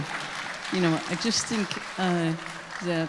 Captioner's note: audience applauding